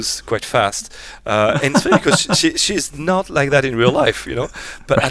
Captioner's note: laughs